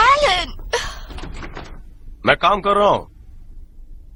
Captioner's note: rattling door